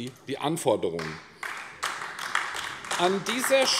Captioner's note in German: Beifall AfD